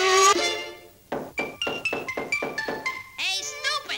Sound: knock, knock, knock, knock, knock, knock, knock

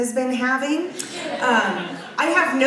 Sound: audience laughs

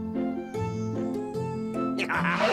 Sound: wolf laughs

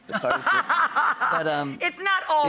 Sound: laughs heartily

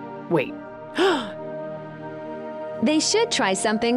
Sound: sighs

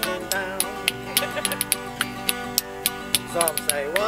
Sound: woman laughing

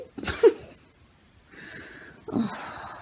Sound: snorts; sighs

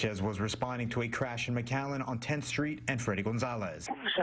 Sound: radio chatter

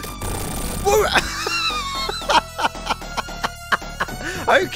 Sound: laughs

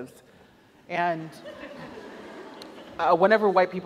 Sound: audience laughs

